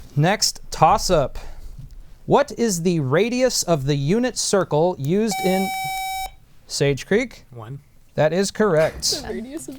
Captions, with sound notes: Next toss up, what is the radius of the unit circle used in [Buzzer] Sage Creek. 1. That is correct.